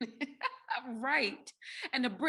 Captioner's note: laughs